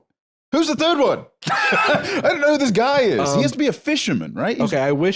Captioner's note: laughs